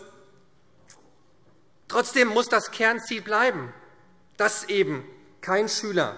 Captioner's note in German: none